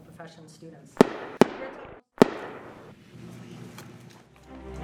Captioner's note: gunshots